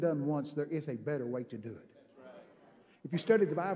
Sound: congregation amens

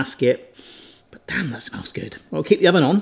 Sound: sniffs

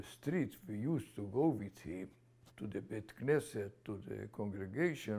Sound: non-english

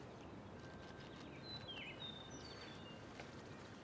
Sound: birds calling

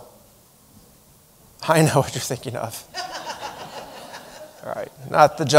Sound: chuckling

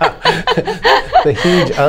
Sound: laughter

